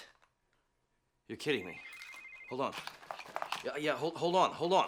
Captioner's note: cell phone rings